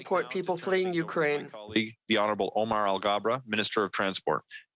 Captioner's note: speaking French